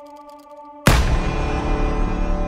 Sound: gunshot

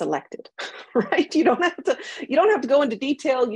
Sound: laughs

